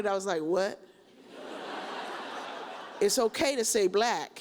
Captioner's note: audience laughs